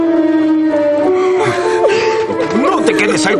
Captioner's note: crying